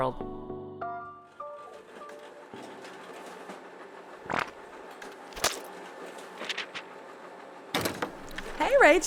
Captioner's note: sound of a copy machine running, door opening